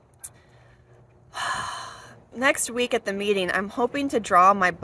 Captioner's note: sighs